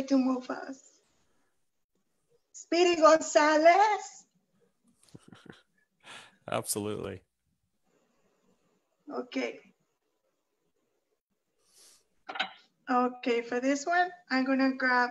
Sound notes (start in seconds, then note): 5.1 laughs